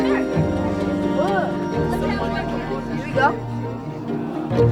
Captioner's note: kids mumbling